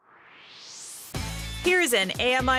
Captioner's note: swoosh